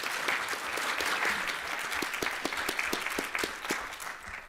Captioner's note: applause